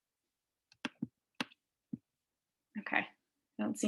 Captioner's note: keyboard clicking